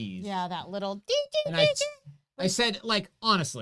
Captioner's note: beeps